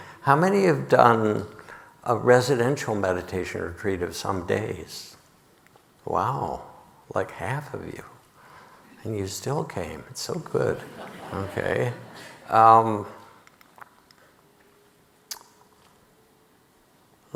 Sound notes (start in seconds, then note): 10.7 audience laughing